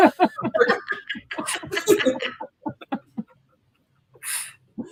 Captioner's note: laughter